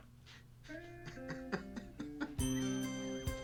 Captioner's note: laughing; children laughing and playing